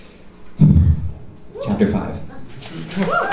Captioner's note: exhale